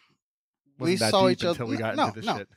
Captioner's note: speaking faintly; laughing